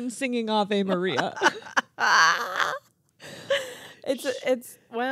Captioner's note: laughing